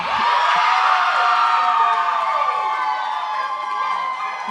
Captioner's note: cheering